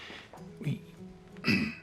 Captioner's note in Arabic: ينظف الحلق